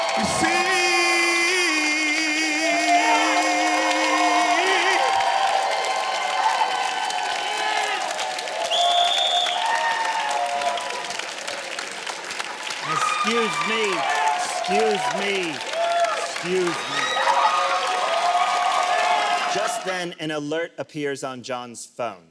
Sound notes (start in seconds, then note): 8.6 whistle blows; 17.4 audience cheers